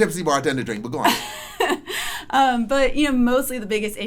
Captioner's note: laughs